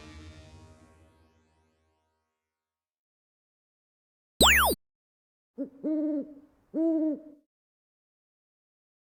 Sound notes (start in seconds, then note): 4.4 zap; 4.9 owl hoot hoot